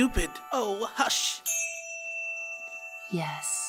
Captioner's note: chime